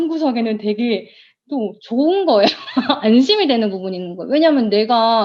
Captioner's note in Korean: 웃음